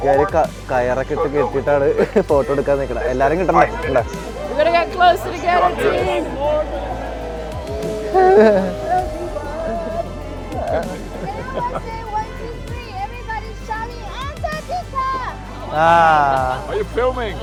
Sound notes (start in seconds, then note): 8.7 cheer